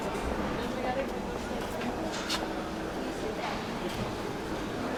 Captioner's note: the chatter of people in the auction room